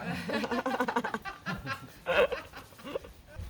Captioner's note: laughter